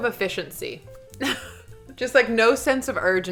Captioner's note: laughing